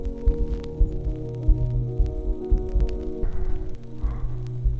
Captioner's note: gentle breathing